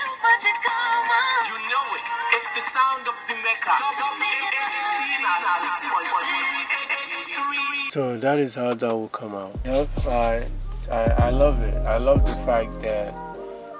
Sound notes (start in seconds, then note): 0.2 R&B music; 4.1 announcement echoes